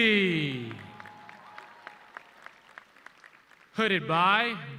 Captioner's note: audience cheering